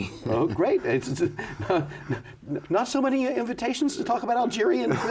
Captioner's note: chuckles